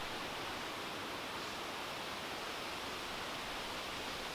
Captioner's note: leaves rustling